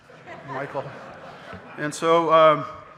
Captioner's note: audience laughing